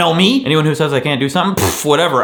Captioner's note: blows raspberry